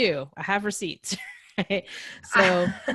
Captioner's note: laughing